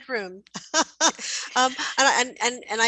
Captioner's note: laughs